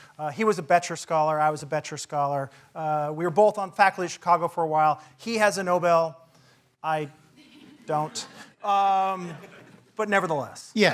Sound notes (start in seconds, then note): 7.4 laugh